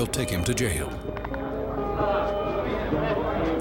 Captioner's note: indistinct chatter